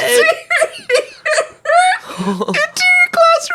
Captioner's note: laughs